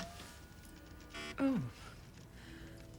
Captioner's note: buzz